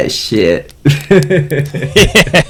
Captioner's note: laughs